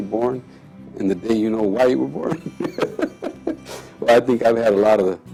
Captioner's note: laughs